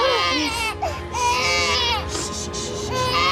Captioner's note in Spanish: Llanto del bebé